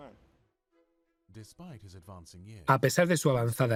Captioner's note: voiceover